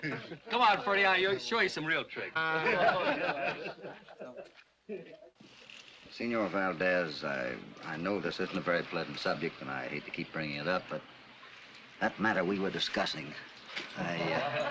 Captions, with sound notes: Come on, Freddie, I'll show you some real trick. [ LAUGHS ] Señor Valdez, I know this isn't a very pleasant subject and I hate to keep bringing it up, but... that matter we were discussing, I...